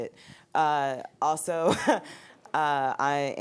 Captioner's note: giggling